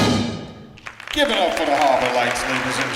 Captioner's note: clapping